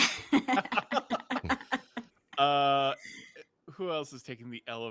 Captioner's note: group laughs